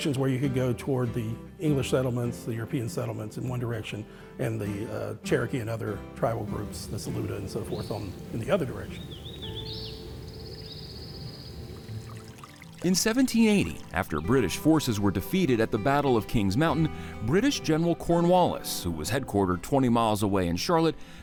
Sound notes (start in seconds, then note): 9.5 birds chirping